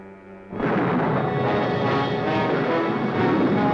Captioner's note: thunder roaring